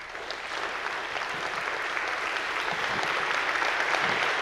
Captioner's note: crowd applause